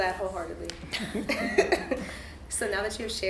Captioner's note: all chuckle